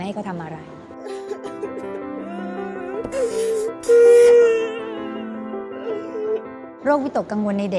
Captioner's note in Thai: เสียงร้องไห้